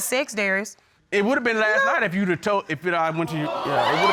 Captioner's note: stutters